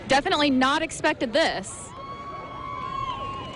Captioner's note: cheering